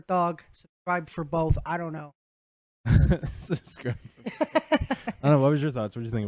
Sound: laugh

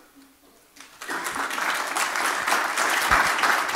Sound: applause

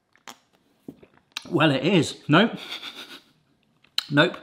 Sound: laughs

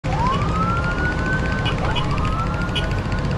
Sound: police siren

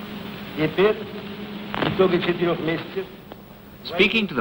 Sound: speaking in foreign language

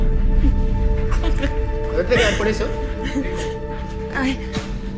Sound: laughing

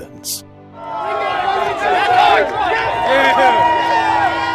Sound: crowd cheering

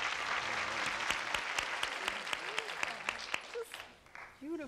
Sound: audience applauding

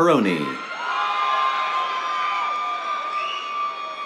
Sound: cheers, applause

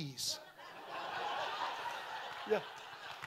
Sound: audience laughing

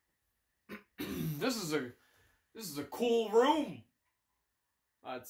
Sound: clears throat

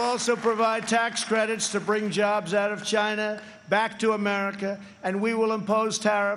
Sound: applause

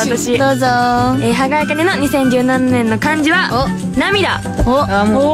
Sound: tears

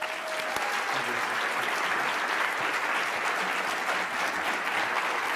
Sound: clapping

